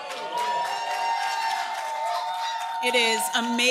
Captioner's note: applause